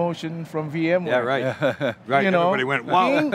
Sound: laughs

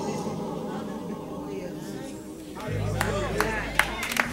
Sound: crowd exclaiming; applause

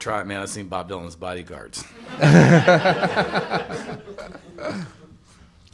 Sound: laughter

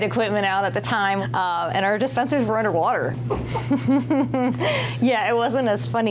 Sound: laughing

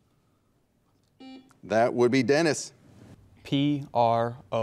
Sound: buzzer beeps

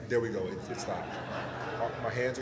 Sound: laughter

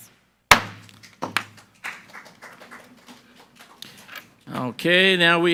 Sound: gavel bangs; group applauding

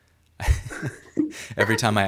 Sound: laughing

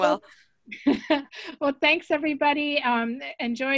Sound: laughs

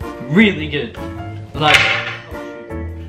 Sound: accidentally hits the cooling rack

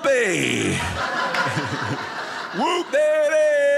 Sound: audience laughing

